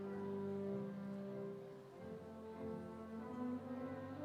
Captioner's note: none